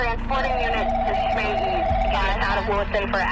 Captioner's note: phone ringing